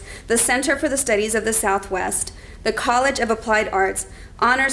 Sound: none

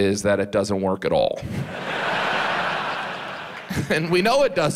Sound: audience laughs

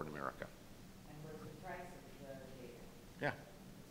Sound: faintly speaking

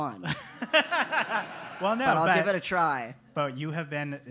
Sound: laugh

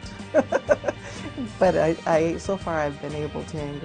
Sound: laughs

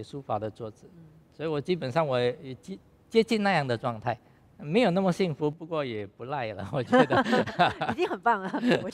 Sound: laughs

